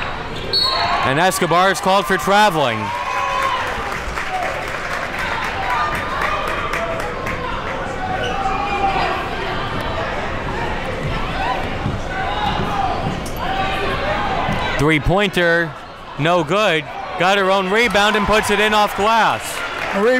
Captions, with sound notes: (whistle blows) And Escobar's called for traveling. (crowd cheering) Three pointer no good. Got her own rebound and puts it in off glass.